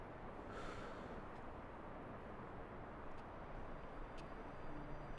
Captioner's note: Jack sighs